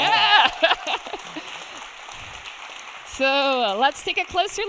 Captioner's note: audience cheering